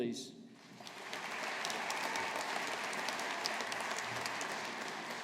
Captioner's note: audience applauding